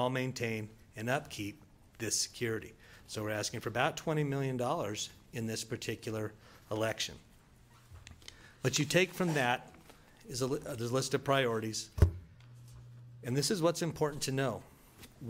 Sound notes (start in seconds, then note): none